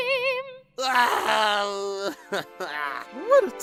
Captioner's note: nickel cries